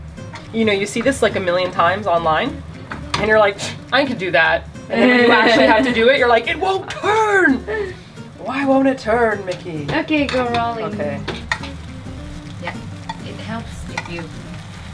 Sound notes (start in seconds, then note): 3.4 scoffs